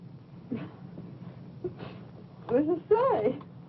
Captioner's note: chuckles